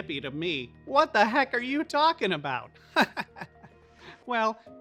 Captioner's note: chuckling